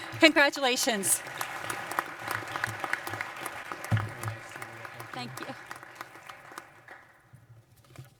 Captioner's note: applause